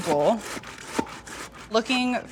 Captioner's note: tomato scraping